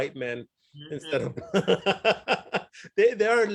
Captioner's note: laughs